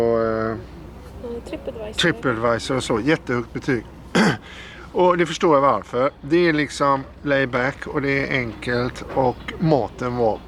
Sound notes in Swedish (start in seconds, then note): 4.1 harklar sig